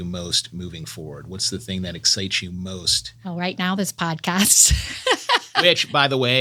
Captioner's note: laughs